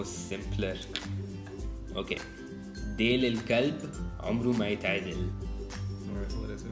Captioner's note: Arabic